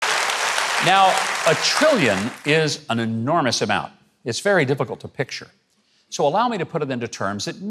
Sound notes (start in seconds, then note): 0.0 audience clapping